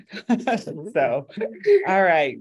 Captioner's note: both laughing